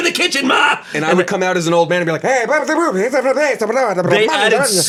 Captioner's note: grumbles